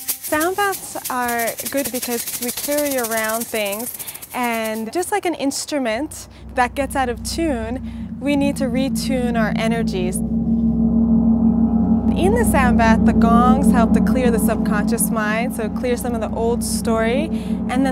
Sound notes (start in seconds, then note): 0.0 rhythmic percussion music; 9.8 gong thrumming